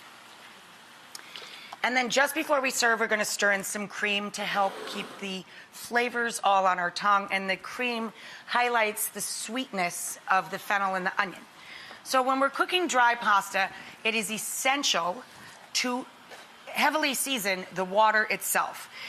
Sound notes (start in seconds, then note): none